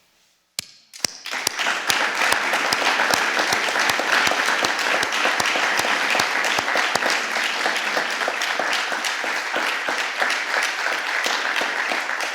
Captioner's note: applause